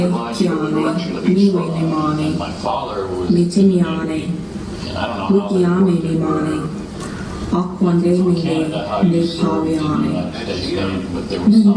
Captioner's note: female voice speaking in Indigenous Myaamia language